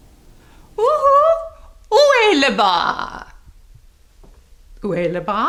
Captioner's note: woman speaks foreign language